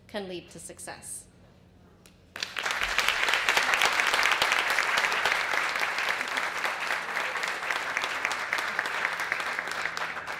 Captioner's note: applause